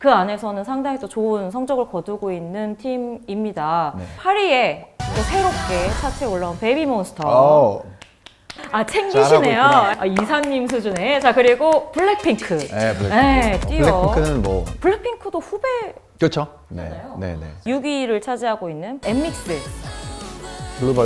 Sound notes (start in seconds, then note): 8.0 applause